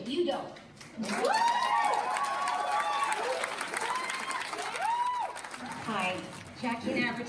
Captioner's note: audience applauds; audience cheers